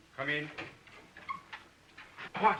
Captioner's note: door creaks